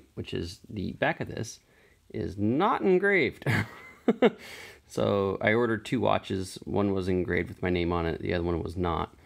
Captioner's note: laughs